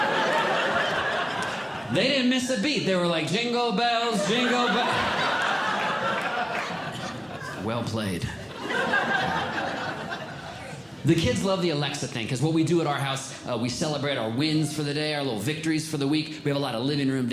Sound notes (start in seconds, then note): 0.0 audience Laughing; 3.2 singing; 4.0 audience Laughing